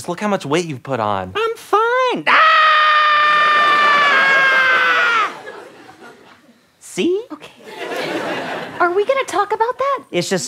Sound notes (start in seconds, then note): 2.2 screams